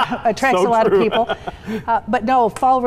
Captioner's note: laughs